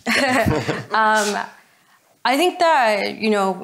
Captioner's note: all laugh